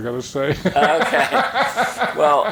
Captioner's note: chuckling